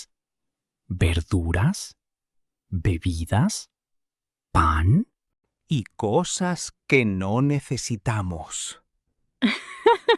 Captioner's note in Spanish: risas